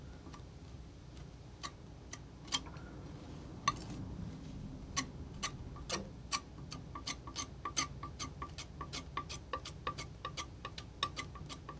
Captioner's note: tapping